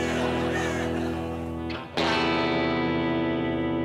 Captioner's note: crow cawing